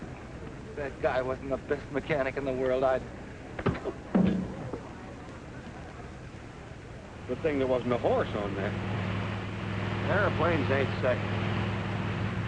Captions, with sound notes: If that guy wasn't the best mechanic in the world, I'd-- [thud] I don't think there was no horse on there. Airplanes ain't saddles.